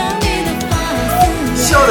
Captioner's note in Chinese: 兴奋